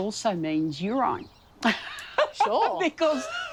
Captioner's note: laughs